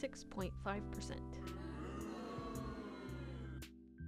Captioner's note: booing